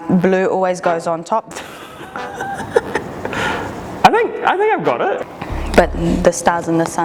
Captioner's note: laughs